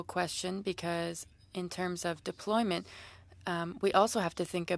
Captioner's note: speaking French